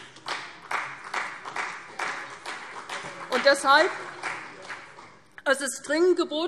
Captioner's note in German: Beifall CDU und vereinzelt BÜNDNIS 90/DIE GRÜNEN